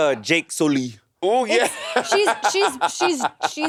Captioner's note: Monét laughing